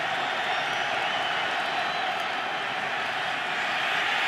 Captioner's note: cheering